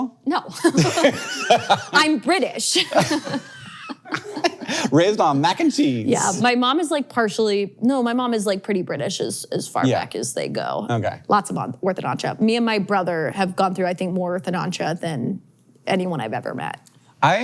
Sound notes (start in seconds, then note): 0.6 laughs